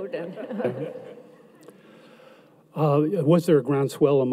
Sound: audience laughs

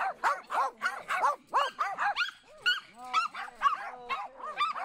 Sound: dogs continue barking

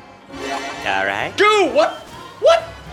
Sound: yelps

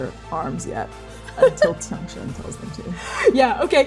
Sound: laughing

